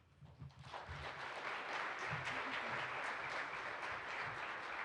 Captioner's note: participants applaud